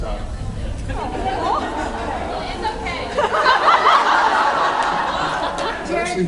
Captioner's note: laughs